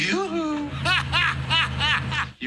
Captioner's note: laughing